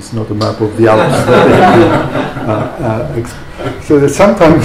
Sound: laughter

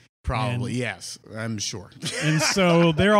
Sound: laughs

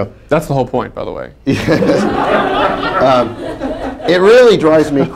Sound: laughter

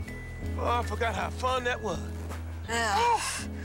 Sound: zip

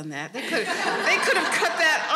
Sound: audience laughing

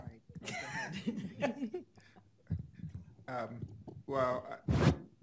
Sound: laughing

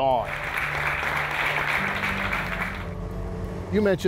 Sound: audience applauding

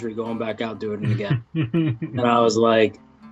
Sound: chuckles

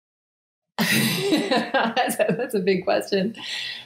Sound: laughs

